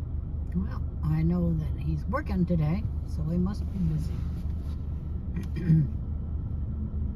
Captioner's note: clears throat